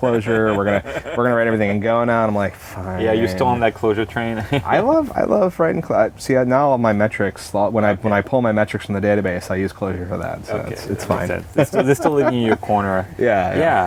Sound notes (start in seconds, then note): 0.0 laughter; 4.2 laughs